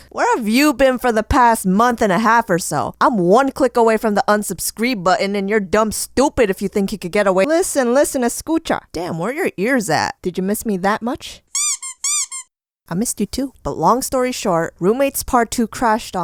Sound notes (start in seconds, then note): 11.5 squeeka sqUEEKA